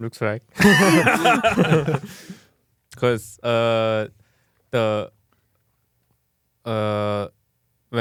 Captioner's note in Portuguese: risos